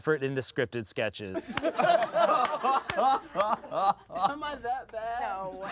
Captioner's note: everyone laughs